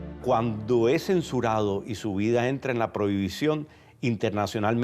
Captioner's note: speaking Spanish